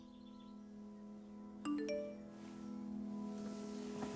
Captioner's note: phone beeps